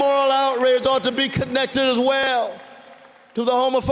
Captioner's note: applause